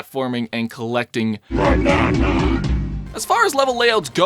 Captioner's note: banana sound effect